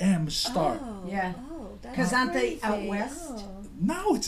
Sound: voiceover

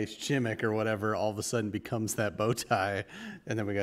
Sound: chuckle

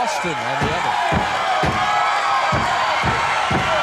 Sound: cheering

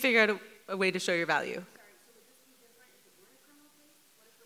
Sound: woman speaks off mic

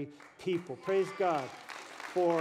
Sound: applause

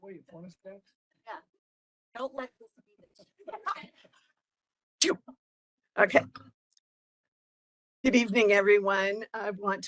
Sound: laughing

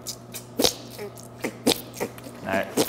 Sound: squelching

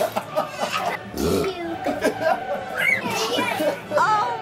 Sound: laughs; burps

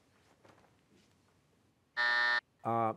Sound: buzzer

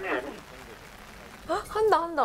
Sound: haha

